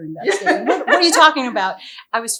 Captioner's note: laughing